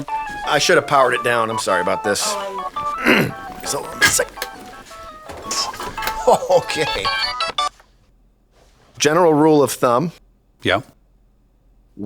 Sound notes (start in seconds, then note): 2.9 clears throat; 4.8 ringtone continues; 6.0 chuckling; 7.7 ringtone stops